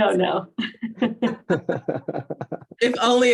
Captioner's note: group laughing